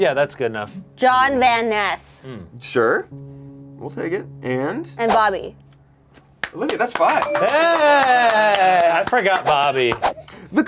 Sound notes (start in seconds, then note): 6.2 claps